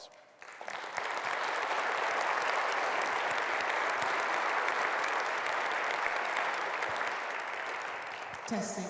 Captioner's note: applause